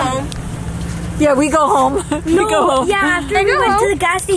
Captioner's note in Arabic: يضحك